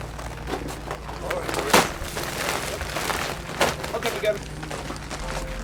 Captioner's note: bags rustle